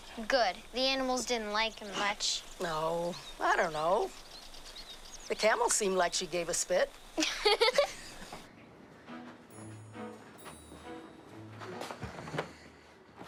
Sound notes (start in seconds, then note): 7.2 Aurora laughing; 8.6 soft expectant music